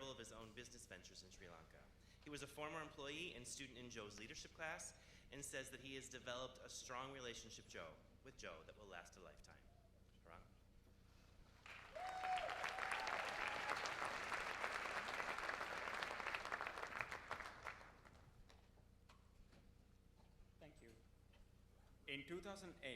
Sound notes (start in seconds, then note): 11.6 cheers and applause; 19.1 cheers and applause